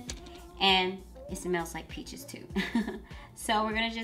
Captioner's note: laughs